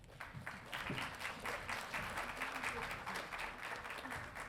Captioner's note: audience applauding